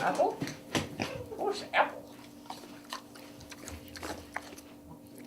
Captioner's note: Nona snorting and eating